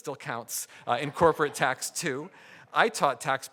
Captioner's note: audience laughing